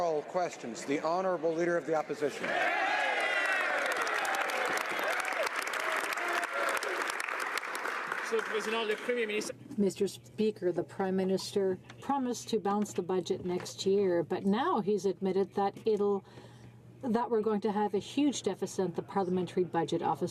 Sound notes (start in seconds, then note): 6.3 some Applause